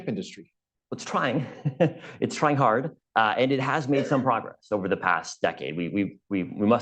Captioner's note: laughs